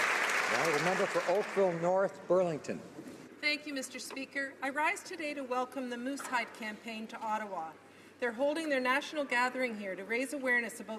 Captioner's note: applause